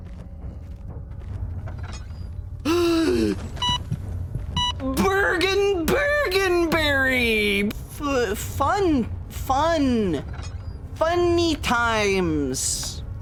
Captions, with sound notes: (Gasps) [Heart monitor sfx] Bergen... bergenberry! Fuh-- Fun, fun. Funny times.